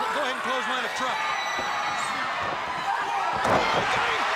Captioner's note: audience cheering